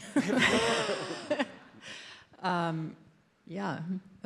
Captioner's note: audience laughs